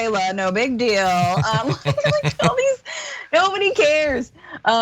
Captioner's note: laugh